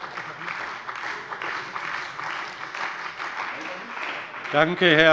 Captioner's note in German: Beifall bei der CDU und dem BÜNDNIS 90/DIE GRÜNEN